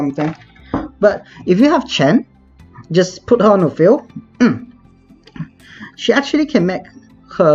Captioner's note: clears throat